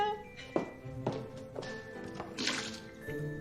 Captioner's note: sloshes